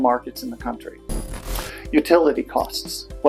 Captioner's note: static